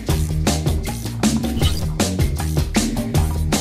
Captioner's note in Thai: เสียงกดปุ่ม